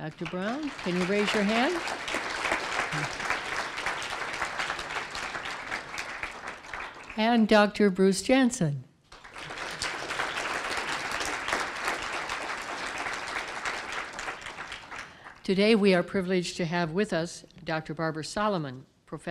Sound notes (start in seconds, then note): 3.2 applause; 9.0 applause